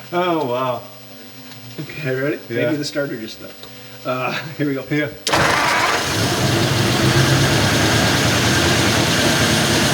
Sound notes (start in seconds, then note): 5.3 engine purrs and revs